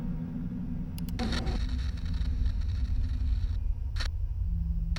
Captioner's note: static crackling